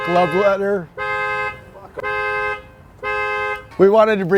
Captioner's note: honking